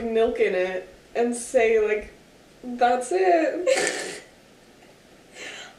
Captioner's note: laughing